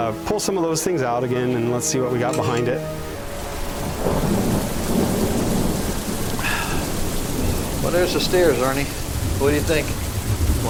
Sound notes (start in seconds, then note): 3.7 muffled thunder claps; 4.0 rain splashes; 6.4 Richard sighs